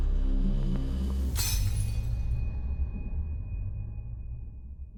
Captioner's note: glass shattering